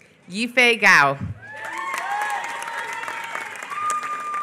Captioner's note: applause